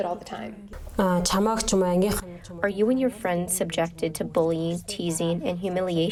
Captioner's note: through translator